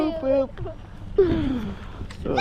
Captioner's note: sigh